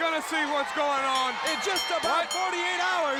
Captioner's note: bell ringing